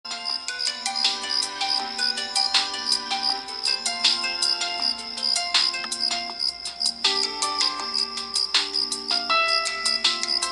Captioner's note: phone Alarm